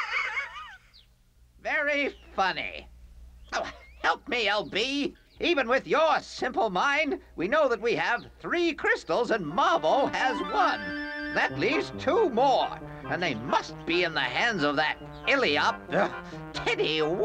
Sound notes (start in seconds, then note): 15.6 grunts; 17.0 laughs